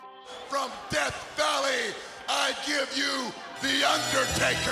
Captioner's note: creepy organ music; laughs